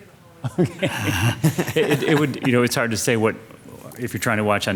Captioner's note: both giggling